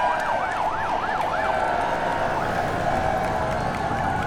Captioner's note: sirens blaring